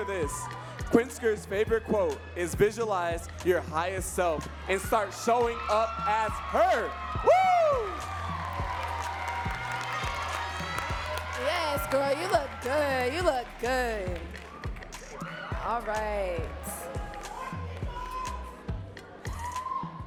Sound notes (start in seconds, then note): 9.6 audience cheering and clapping